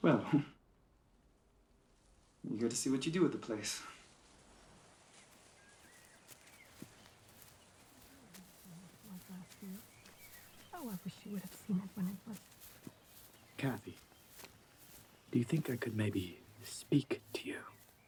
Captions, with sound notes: - Well, hm, I'm eager to see what you do with the place. (birds singing) (group murmuring) - Cathy, do you think I could maybe speak to you?